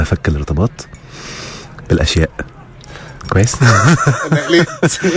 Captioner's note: laugh!